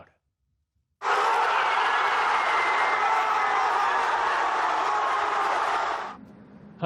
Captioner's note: cheering